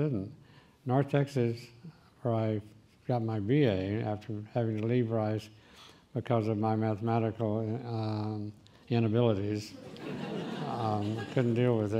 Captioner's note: laughing